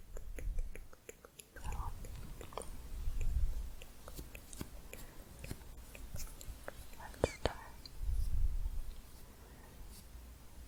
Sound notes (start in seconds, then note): 0.0 tongue clicking; 2.4 soft tongue clicking; 8.1 stroking bristles